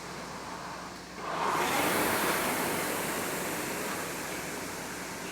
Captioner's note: rowing machine whirring